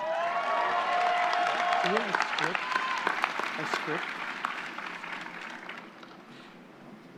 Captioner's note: applause